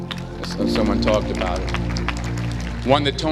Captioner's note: applause